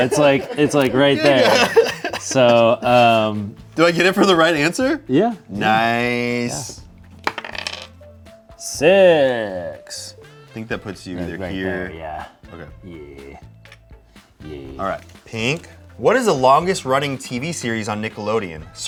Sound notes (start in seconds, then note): 1.7 laughs